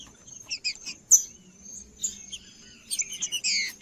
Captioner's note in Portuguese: trinca ferro cantando